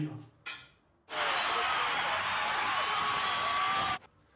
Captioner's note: loud cheering